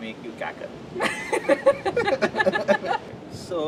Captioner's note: laughter